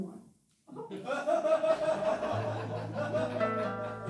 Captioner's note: laughing